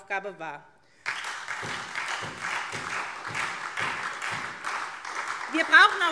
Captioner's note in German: Beifall SPD